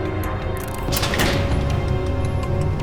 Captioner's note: door opens